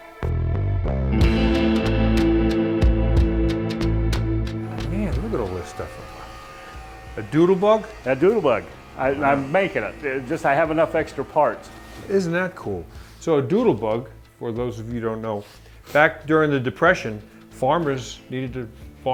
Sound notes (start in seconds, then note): 0.3 soft blues music; 4.5 tools buzzing